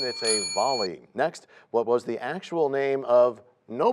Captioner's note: bell rings, time expires